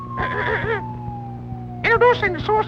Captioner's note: clears throat